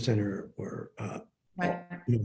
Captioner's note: words distorted